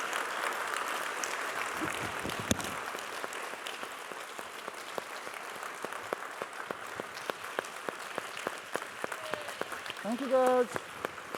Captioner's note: applause